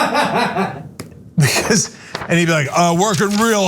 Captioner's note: laugh